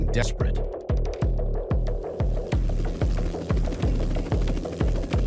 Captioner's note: helicopter whirring